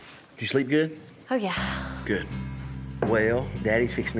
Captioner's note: none